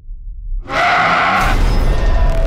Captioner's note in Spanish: Grito